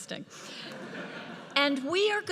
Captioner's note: audience laughs